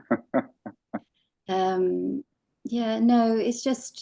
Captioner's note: laughing